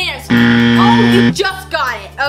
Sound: buzzing

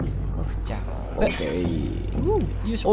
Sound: clatter of plates

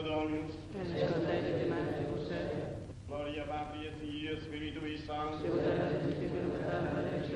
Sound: praying in Latin

